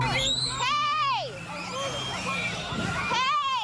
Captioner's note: children screaming